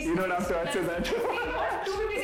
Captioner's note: laughs